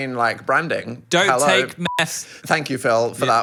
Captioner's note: beep